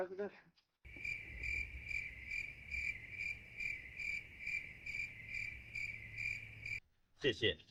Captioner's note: cricket sound